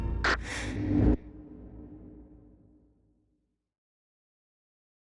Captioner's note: quick inhale of oxygen